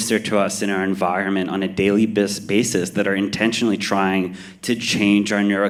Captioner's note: none